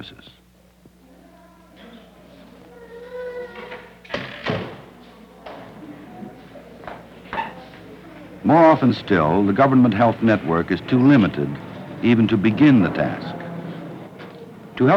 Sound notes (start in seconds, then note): 4.1 door banging; 5.3 indiscriminate chatter